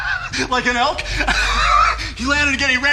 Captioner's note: he laughs